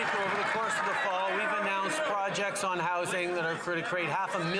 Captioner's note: some Applause